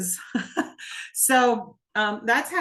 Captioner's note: laughing